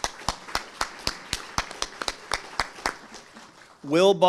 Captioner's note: audience applauding